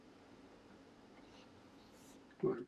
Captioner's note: silence